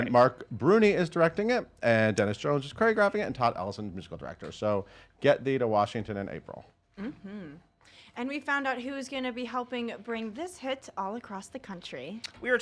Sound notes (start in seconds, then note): 7.0 hums